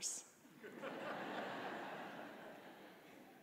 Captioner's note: audience laughing